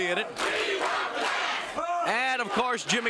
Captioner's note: crowd chants "We want the mask"